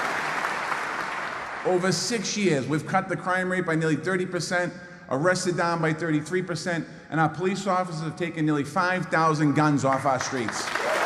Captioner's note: applause